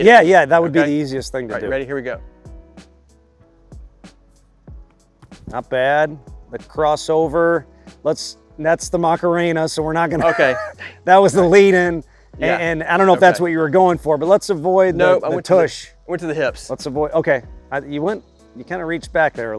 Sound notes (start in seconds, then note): 3.2 gentle music; 10.1 chuckles